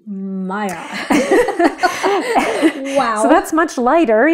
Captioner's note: laughing